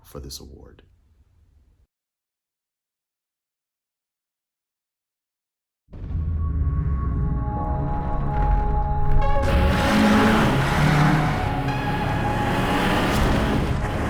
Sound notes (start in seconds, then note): 6.0 dramatic music; 9.0 car zooming